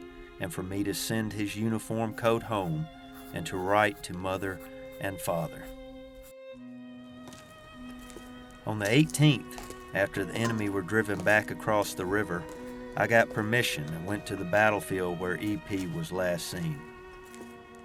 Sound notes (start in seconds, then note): 7.5 footsteps